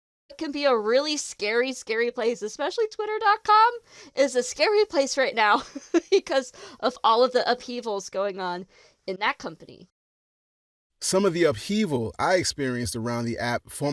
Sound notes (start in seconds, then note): 5.7 laughs